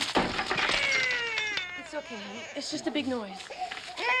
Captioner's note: shattering, crying